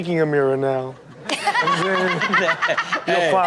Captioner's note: Chanel laughs